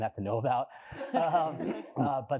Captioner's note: laughter